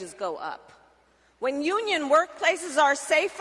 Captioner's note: applause